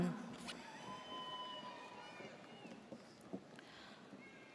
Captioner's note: audience cheers